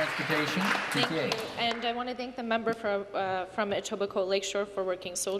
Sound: applause

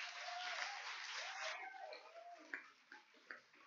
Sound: cheers and applause

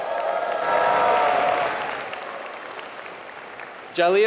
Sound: applause

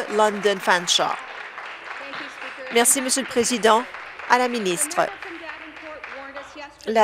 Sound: applause

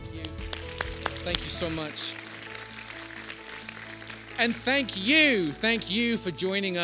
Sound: applause

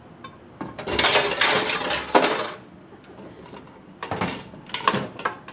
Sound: dropping things in sink

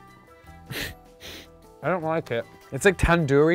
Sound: laughs

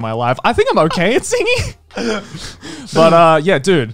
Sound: chuckling

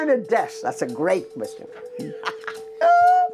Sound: laughter

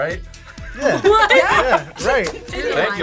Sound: laughs

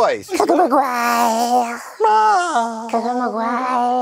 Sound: literal gremlin noises

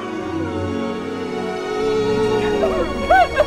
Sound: wails; cry.wav

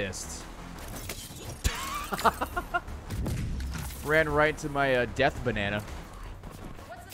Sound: laughs

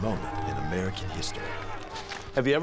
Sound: crowd yelling

